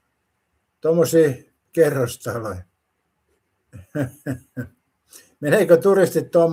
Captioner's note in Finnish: naurua